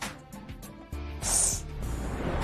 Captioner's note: sniffles